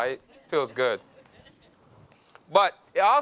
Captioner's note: laughs